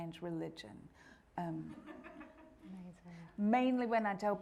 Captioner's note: audience laughing